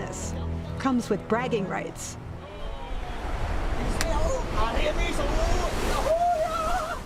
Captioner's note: speaking spanish